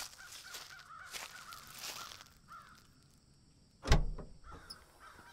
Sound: crows cawing in distance

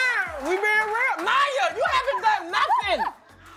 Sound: cheers and applause

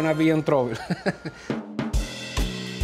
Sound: laughs

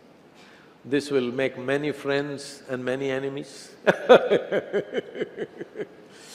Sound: laughs

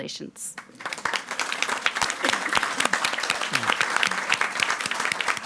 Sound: audience applauding

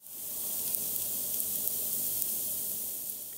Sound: sizzling oil

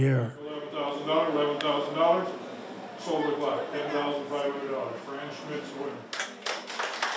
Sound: auctioning; applause

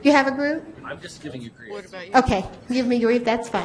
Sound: voiceover

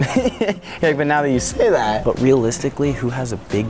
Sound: laughing

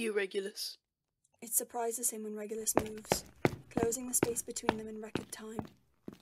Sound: suden footsteps

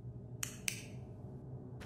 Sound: click

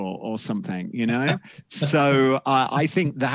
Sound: laughs

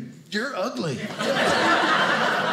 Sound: audience laughing

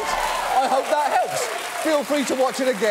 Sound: audience applauding

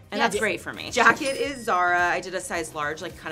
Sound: cash register ringing

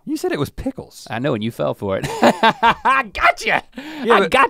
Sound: laughs

